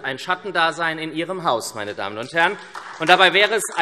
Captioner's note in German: Beifall SPD und Freie Demokraten